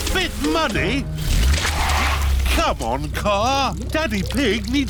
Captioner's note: wheels screech